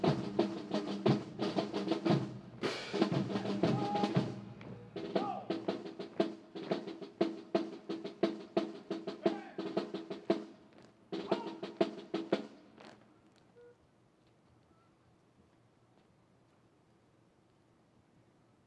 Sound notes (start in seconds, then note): 4.5 officer shouts orders; 7.9 drums